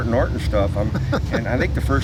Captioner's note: laughs